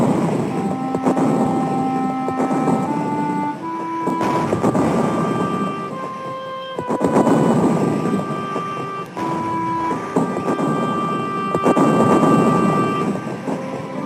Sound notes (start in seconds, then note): 0.2 gentle music; 3.9 bombs exploding; 10.1 gentle music